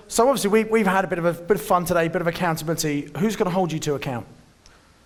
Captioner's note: none